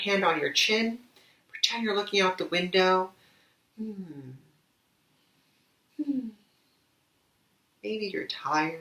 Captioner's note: sighs